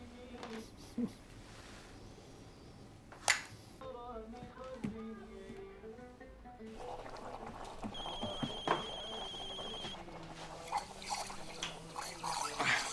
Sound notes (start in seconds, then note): 3.8 foreign language music on stereo; 6.7 phone ringing